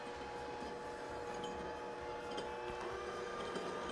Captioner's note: slow whirring